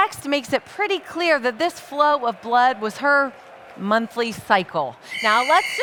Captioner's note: whistle